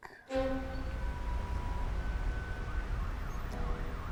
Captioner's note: traffic noise